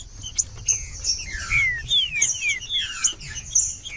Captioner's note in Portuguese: trinca ferro cantando